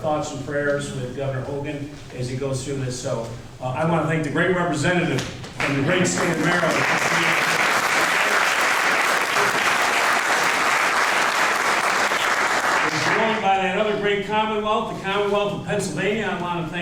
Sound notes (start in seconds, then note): 13.0 applause